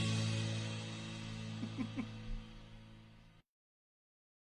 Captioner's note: laughs